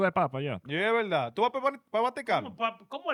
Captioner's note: speaking In Foreign Language